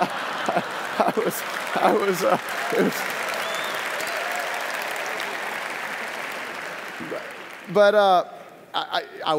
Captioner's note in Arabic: ضحك; تصفيق